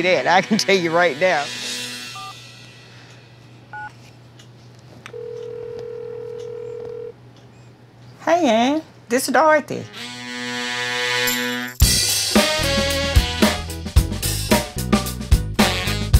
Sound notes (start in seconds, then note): 2.8 phone beeps; 5.1 phone rings